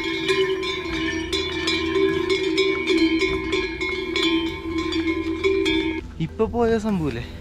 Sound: cow bell

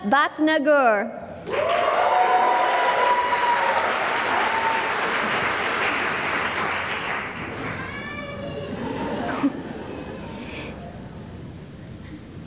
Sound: cheering and applause

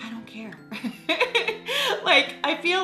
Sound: laughing

